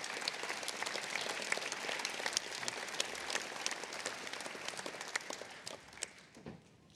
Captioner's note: applause